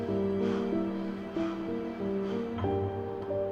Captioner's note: panting